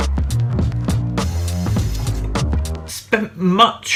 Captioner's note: upbeat music; running water